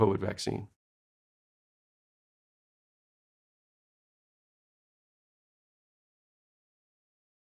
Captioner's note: silence